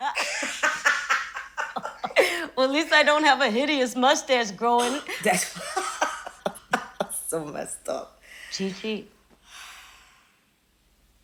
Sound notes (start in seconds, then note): 0.0 laughing; 5.1 laughing; 5.1 gasps